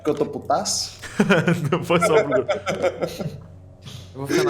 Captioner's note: laughing